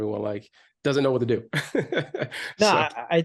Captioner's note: laughs